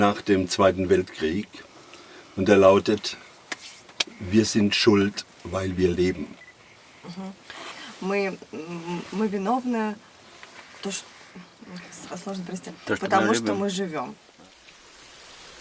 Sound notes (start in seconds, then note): 4.8 speaking in German